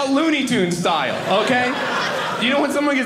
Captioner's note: audience laughing